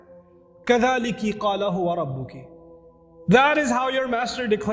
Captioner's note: Arabic